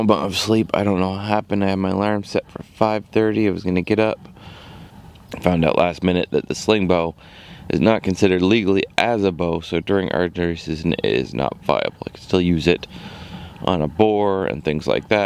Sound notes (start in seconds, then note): none